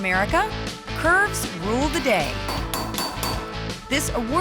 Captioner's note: hammering